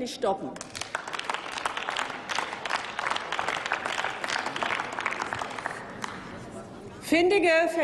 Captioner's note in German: Applaus